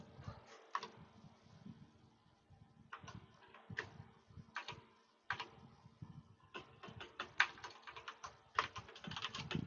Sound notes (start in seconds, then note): 4.9 keyboard clicking